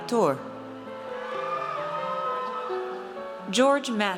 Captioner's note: audience cheers